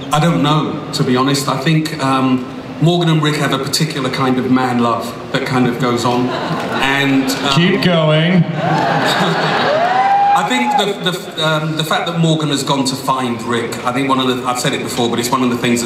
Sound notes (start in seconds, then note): 6.1 audience laughs; 8.4 audience laughs and yells out